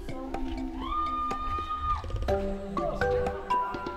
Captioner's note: shouting